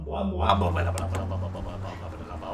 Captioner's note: taps on hood